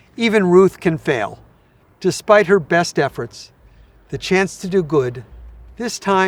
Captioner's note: laughing